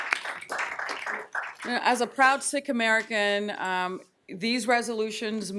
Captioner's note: applause